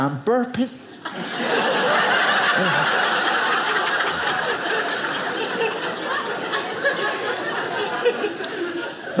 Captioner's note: audience laughing